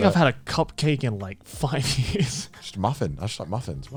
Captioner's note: laughs